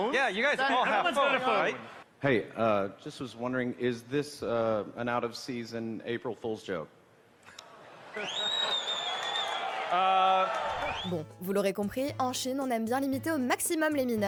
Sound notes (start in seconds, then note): 8.1 crowd applauding